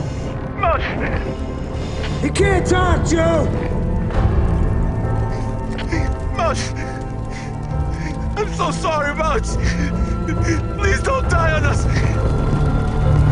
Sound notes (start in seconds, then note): 7.8 crying